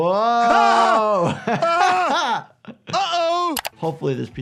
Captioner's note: doctor laughs